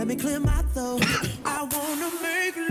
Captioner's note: throat clearing noise